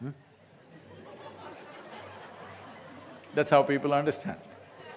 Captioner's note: laughter